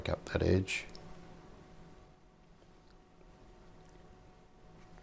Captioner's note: silence